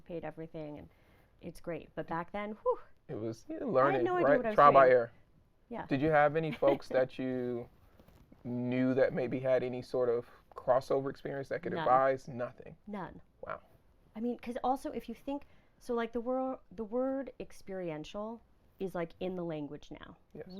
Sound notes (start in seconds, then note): 6.5 laughing